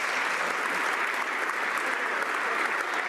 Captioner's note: some Applause